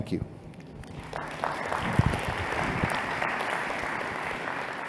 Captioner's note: applause